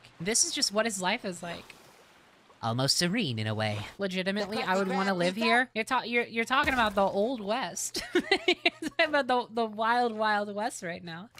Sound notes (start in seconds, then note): 2.5 Spongebob Voice; 7.9 laughter